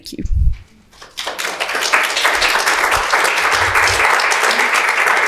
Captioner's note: audience clapping